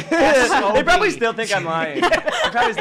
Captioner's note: laughs